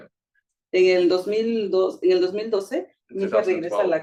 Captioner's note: speaking Spanish